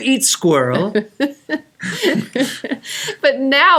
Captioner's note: laughing